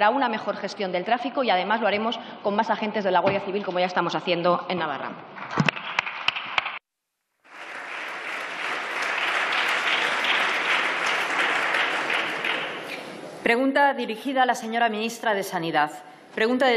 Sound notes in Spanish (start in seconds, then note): 5.5 Aplausos